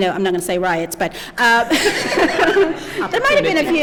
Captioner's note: laughter